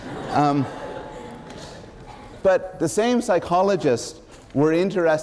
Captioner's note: laughter